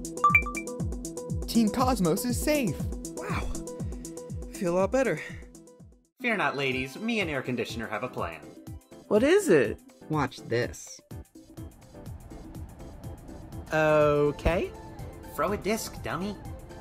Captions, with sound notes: [ding] Team Cosmos is safe! Wow. I feel all better! Fear not ladies, me and Air Conditioner have a plan. What is it? Watch this. [air blowing] Ooooookay. Throw a disc, dummy!